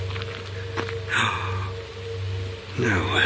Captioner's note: gasps